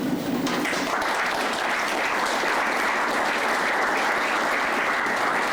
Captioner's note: applause